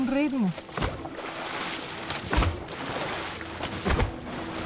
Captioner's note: sloshing continues